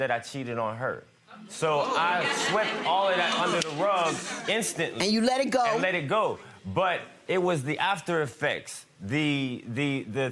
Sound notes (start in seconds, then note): 1.6 audience chatter